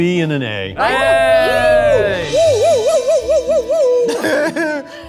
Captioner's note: group cheering